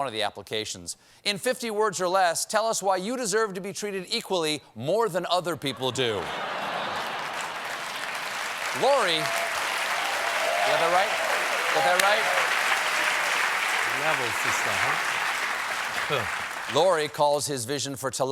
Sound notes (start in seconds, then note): 8.4 applause; 8.4 laughter; 13.8 applause